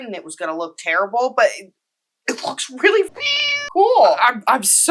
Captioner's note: meow